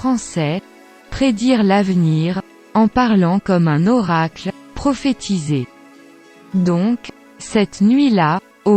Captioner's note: en parlant comme un oracle